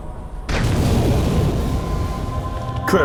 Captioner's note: explosion